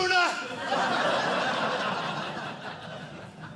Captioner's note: audience laughing